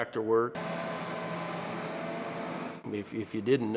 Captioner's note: engine humming